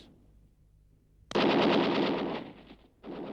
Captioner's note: gunfire